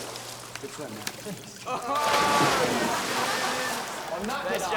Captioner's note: students laugh